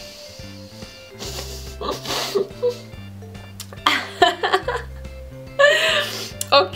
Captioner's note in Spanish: risas